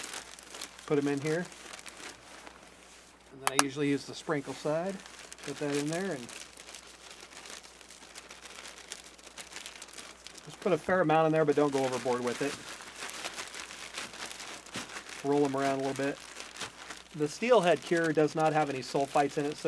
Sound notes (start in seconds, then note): 6.6 plastic rustling; 14.6 plastic rustling